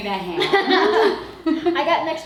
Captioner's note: all laughs